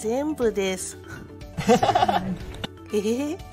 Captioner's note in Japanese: 羽生結弦の笑い